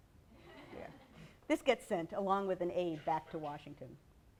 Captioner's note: laughter